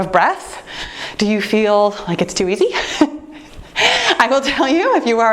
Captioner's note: laughs